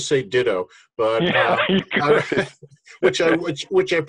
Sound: participants laughing

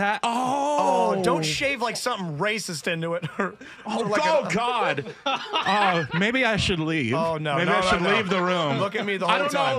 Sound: laughter

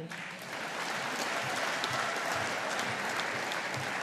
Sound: audience applauding

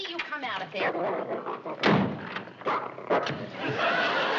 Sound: growling and barking

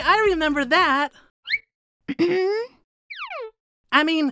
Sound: coughs

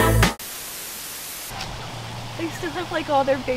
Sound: TV static

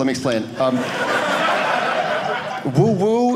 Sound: audience laughing

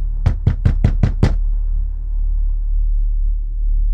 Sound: knock at door upstairs

